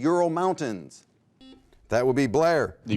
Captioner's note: buzzer